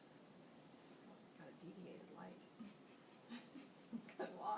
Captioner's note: giggling